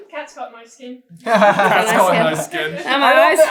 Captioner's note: laughter